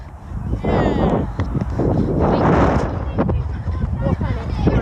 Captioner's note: excited cheers